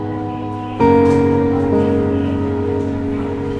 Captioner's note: airline terminal announcements